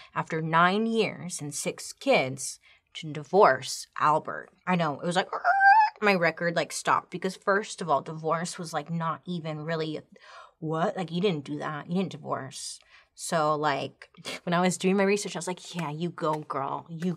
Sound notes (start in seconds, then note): 5.8 makes high pitched squeak